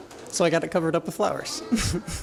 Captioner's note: laughs